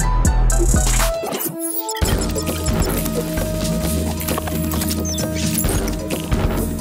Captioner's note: pensive music; graphic crackling